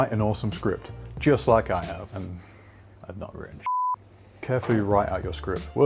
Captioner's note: beep